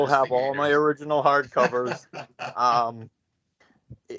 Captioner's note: laughing